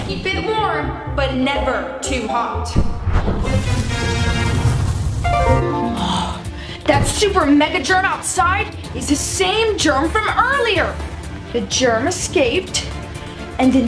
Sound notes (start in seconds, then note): 4.1 flame blazing